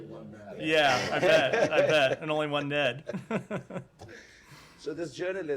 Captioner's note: laughter